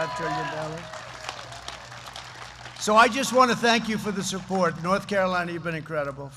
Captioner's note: applause